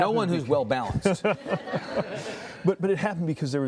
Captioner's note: laughing